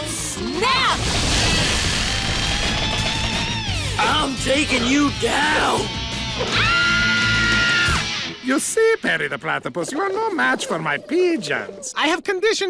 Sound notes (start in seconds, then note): 0.8 rumbling; 6.4 both screaming